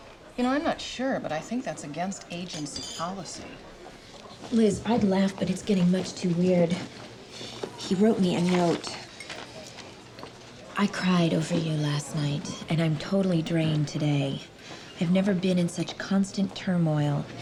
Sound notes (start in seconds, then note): none